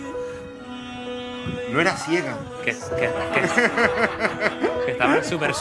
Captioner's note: laughs